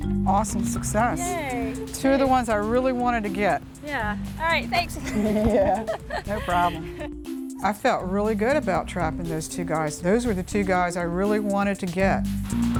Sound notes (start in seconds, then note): 4.9 laughs